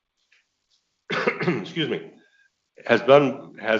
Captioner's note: coughs